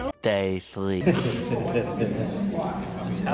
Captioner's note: laughing